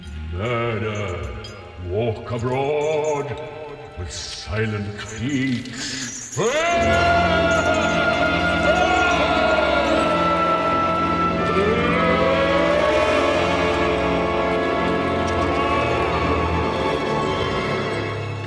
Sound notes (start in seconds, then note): 6.3 loud scary moaning